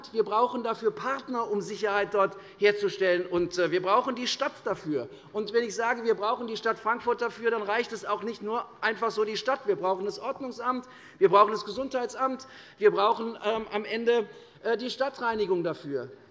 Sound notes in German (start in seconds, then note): none